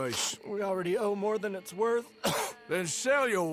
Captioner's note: coughs